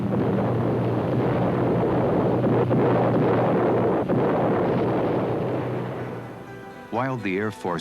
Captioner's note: explosions